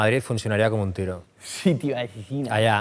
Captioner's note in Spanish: irónicamente